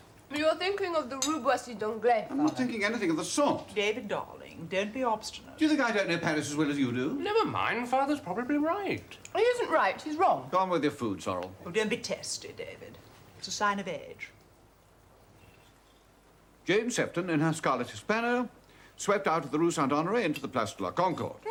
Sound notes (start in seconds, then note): 5.7 David, hotly